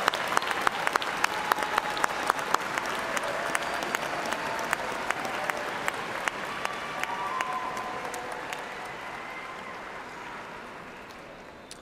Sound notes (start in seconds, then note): 4.3 cheers and applause